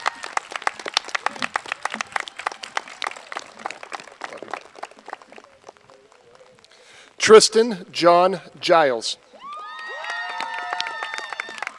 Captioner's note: cheers and applause